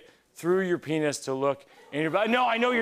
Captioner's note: audience ohs